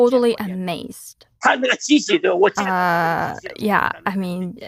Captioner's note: speaking Mandarin